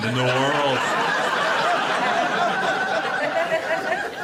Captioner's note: audience laughs